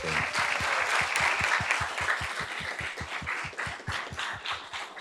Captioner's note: audience claps